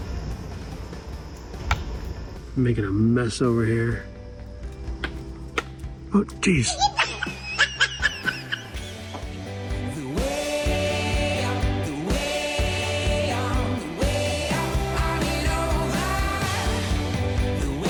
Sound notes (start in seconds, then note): 6.6 squirrel laughing